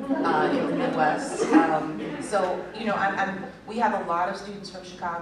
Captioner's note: laughter